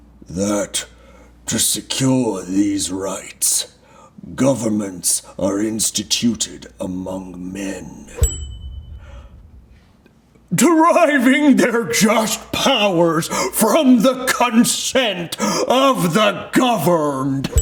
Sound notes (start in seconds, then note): 8.1 bell dinging